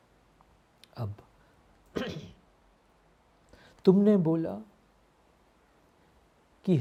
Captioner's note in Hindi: गला साफ़ करने की आवाज़